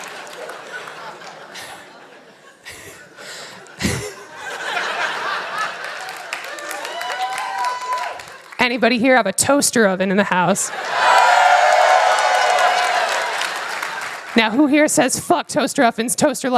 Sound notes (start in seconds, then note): 0.0 laughter; 2.5 applause; 10.6 cheers